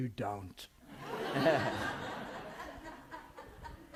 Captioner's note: laughter